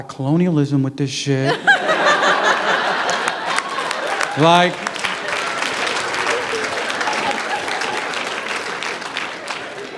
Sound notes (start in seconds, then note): 4.1 laughter; 6.8 applause